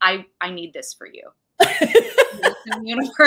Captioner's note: laughing